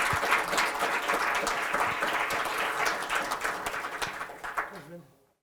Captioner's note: applause